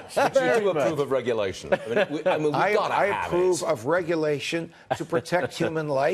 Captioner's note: laughter